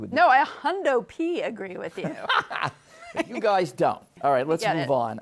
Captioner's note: laughs